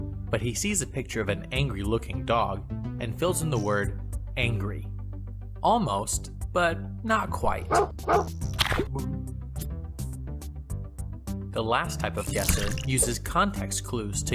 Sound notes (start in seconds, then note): 7.7 dog barking; 7.8 soft upbeat music